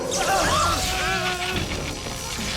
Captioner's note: screams; Stanford groans